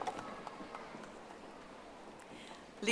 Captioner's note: audience applauding